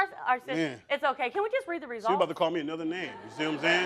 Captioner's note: stammering